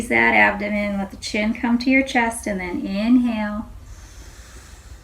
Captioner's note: inhales